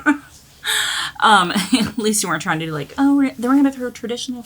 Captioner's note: laughing